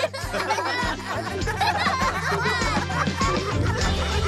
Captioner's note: laughter Continues